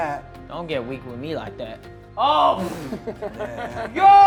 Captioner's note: laughing